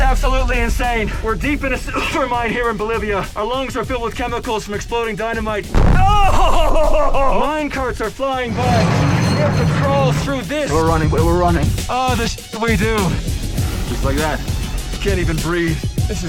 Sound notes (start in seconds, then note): 5.7 dynamite explodes; 8.0 metal scraping